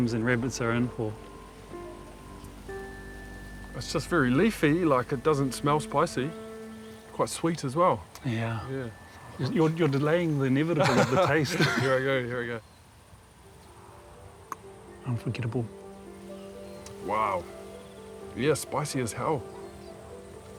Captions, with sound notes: and rabbits are in for. - It's just very leafy. Like, it doesn't smell spicy. Quite sweet as well. - Yeah. You're delaying the inevitable of the taste. - (LAUGHS) Here I go. Here I go. - Unforgettable. - Wow. Yeah, spicy as hell.